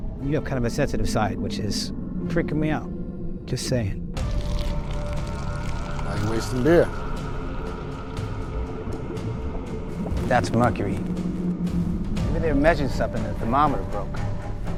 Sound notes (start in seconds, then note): 4.2 beer trickling; 4.4 suspenseful music; 8.9 liquid bubbling